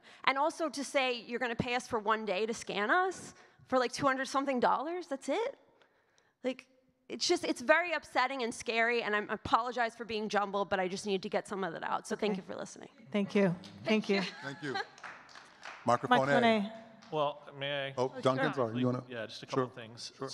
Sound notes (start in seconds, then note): 14.4 audience clapping